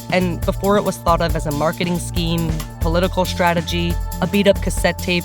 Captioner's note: none